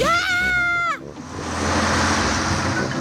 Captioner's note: shrieks